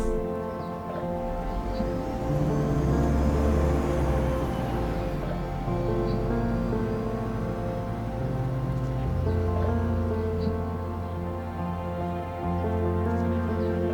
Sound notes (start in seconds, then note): 0.8 bus drives away